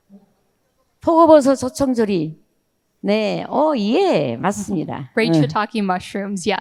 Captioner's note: speaking in foreign language